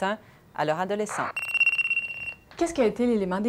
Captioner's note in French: sonnerie